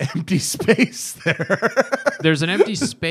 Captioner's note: laughter